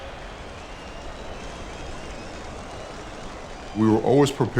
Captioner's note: crowd cheering